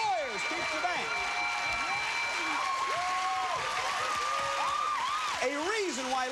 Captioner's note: cheers and applause